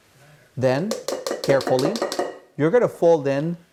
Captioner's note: measuring cup banging